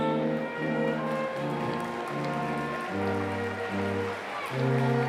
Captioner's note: applause